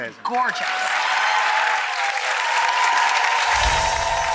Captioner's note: audience cheers; twinkling